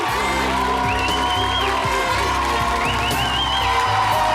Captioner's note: audience cheers